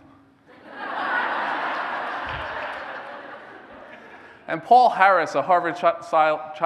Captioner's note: laughter